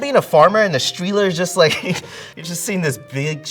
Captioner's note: chuckles